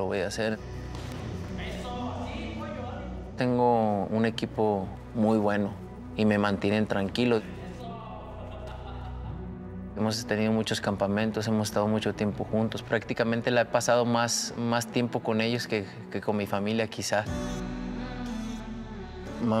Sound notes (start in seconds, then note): 9.7 Canelo ríe